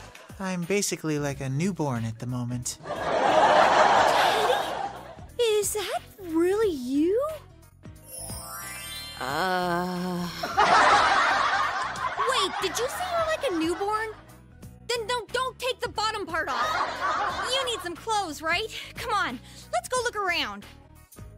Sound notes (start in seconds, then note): 2.8 audience laughs once again; 10.4 audience laughs